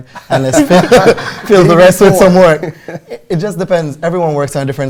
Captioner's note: laughter